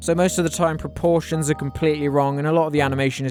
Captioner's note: none